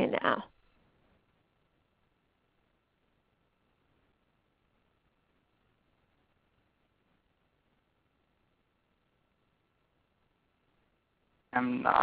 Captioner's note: silence